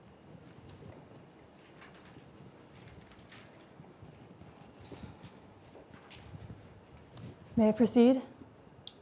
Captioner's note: footsteps and paper rustling